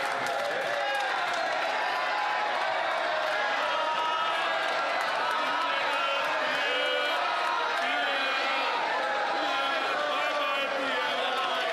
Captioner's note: some Applause